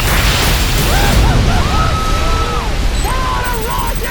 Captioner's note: cheering